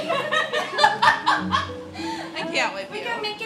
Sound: laughing

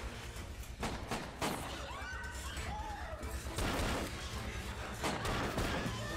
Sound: gun firing; screaming

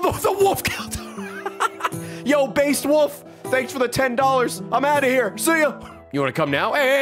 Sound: laughs

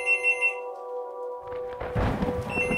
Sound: telephone rings

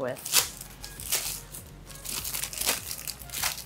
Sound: paper rustling

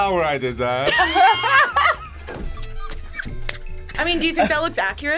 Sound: group laughs

